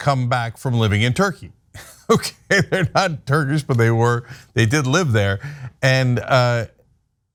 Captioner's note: laugh